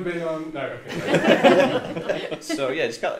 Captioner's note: all laugh